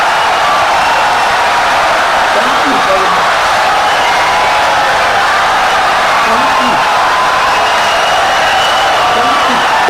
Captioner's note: wild applause and cheering for 17 seconds